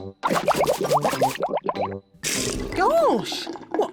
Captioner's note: bubbles